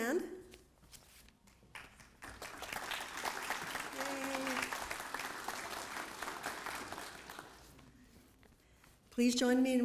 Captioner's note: applause